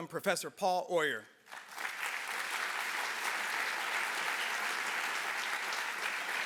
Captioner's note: applause